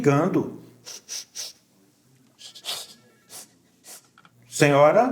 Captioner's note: sound of crying